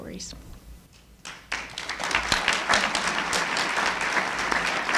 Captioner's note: applauding